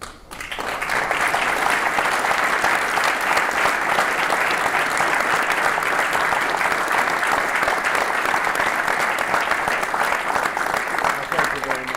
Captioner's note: applause